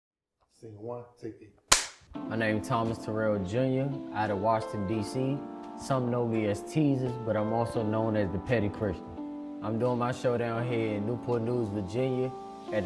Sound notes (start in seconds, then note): 1.7 clapperboard clicking